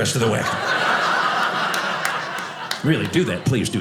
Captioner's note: audience laughing